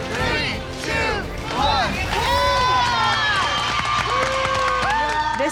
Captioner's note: cheering